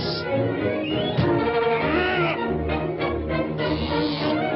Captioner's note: air hissing; door thuds; Pin Cushion Man grumbles; dramatic music continues